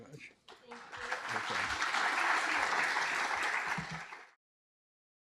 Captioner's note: applause